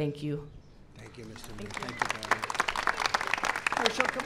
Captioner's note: applause